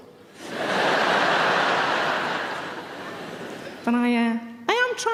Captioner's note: audience laughs